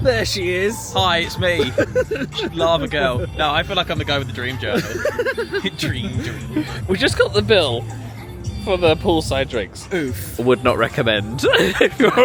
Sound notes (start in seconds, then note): 4.6 laughs